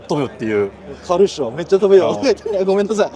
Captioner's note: laughs